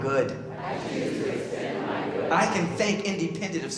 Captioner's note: crowd repeat